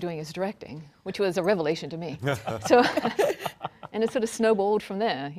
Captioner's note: panelists laughing